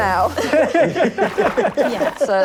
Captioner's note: splashing